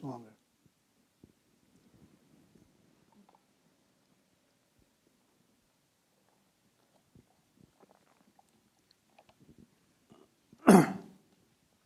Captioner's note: silence